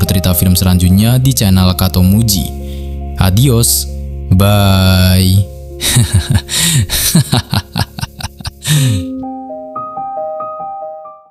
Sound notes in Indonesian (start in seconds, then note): 6.8 tertawa